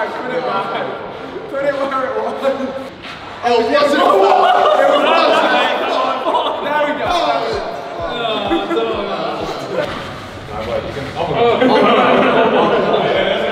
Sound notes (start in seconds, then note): 3.8 group yelling; 6.8 group groaning